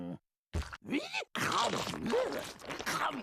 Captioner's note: chomping